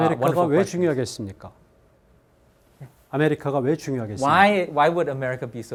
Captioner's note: speaking in Korean